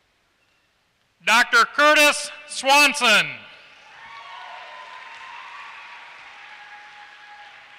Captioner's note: applause